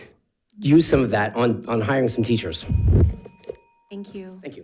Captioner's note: bell dinging